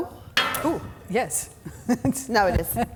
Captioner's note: glass clanging; laughs